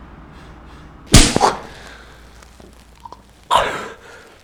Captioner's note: hand slapping